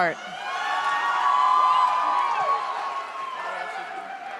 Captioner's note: audience cheers